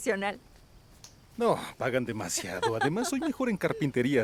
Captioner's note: Esperanza ríe